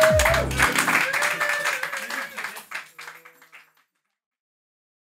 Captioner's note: laughing and applauding